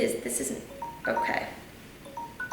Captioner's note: timer beeps